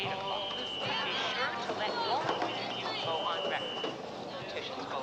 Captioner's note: PA voice continues, street noises; PA voice